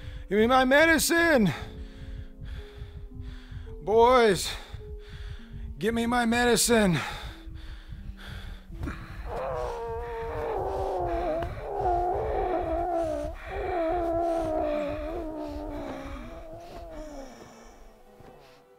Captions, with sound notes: - Get me my medicine! Boys, get me my medicine. (Leo choking)